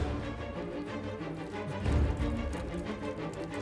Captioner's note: Peeing